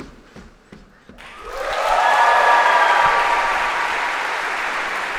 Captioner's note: تشویق، تشویق